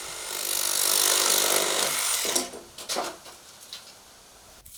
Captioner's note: electrical saw cutting